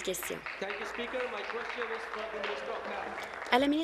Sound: applause

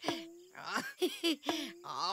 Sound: giggling

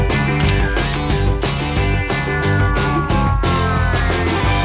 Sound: upbeat music; photo shutter clicking

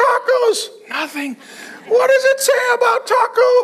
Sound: congregation laughing

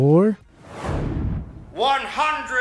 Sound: air whooshing

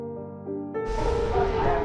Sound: thunder clap

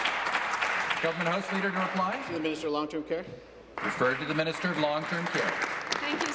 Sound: applause

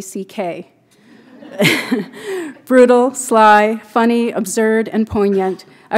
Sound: laughter

